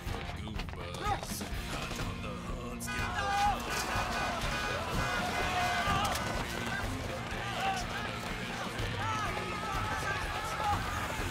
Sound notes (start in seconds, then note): 2.3 horns honking; 4.8 crowd shouting